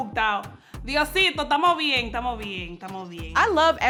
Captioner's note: in Spanish